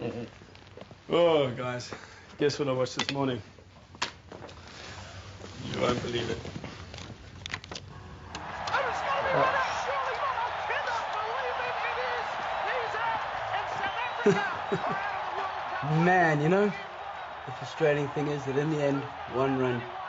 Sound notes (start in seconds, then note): 0.2 chuckles; 7.7 shouting and cheering; 13.9 laughing